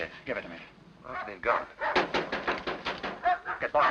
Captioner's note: knocking